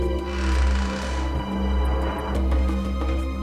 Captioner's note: door creaks